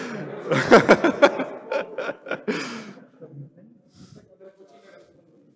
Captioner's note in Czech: Smích